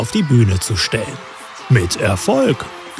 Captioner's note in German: Jubel